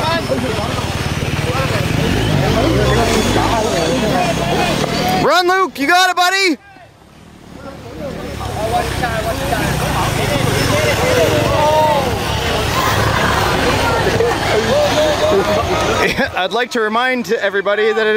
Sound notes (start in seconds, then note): 8.7 crowd chattering